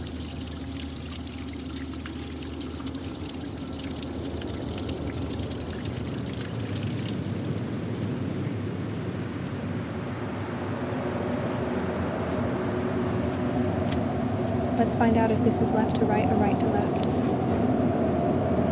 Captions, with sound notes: (heavy wind) (waterfall sounds fade) Let's find out if this is left to right or right to left.